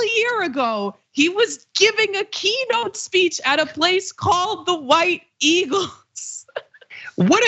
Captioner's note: laugh